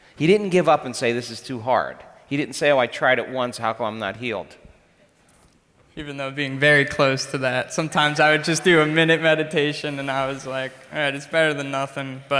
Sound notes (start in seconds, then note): none